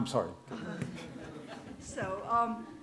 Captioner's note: laughter